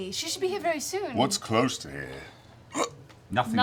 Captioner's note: hiccups